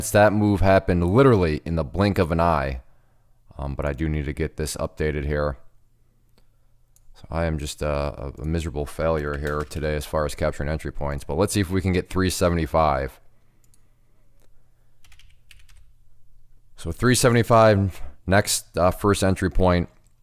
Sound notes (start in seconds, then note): 13.6 clicking